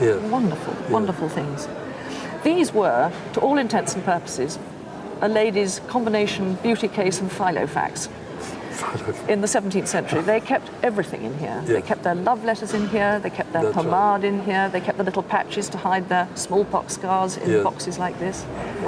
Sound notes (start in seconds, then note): 8.8 laughs